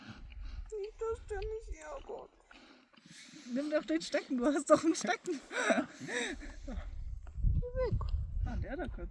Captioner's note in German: gelächter